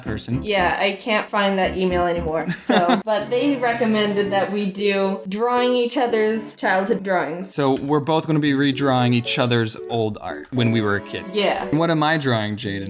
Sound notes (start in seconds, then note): 2.4 laughs